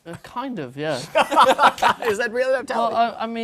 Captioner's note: laughter